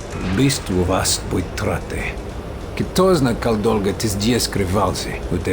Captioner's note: in Russian